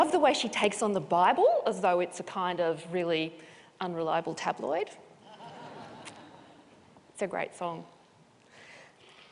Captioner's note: laughter